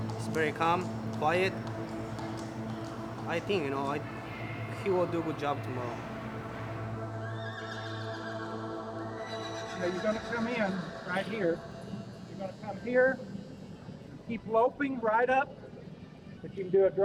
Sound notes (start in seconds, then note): 6.8 horses neighing